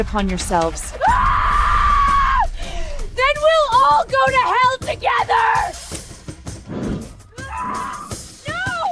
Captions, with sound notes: it upon yourselves. [Screaming] Then we'll all go to hell together!